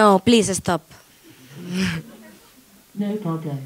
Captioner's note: laughing